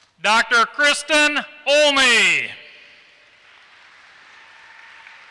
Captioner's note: applause